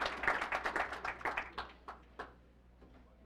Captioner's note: applause